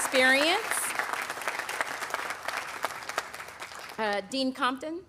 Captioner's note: audience applauding